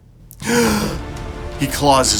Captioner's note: gasp!